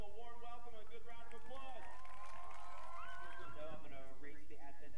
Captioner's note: audience applauds